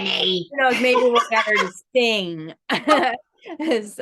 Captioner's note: laughs